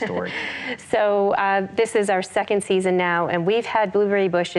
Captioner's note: laughs